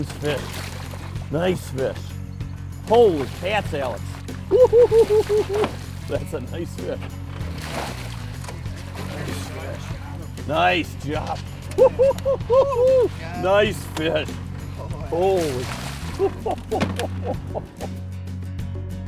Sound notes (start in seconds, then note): 4.5 laughing; 11.7 laughing; 16.0 laughing